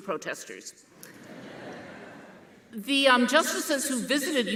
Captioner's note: audience laughing